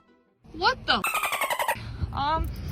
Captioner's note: birds chirping